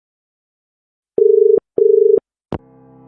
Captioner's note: dial tone